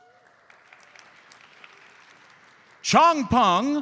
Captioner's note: audience applauds